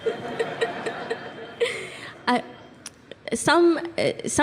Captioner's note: laughter